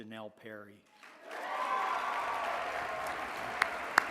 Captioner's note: applause